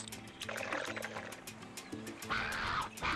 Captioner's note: slurping